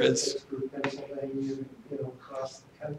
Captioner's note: off microphone